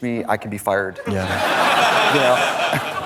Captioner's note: audience laughs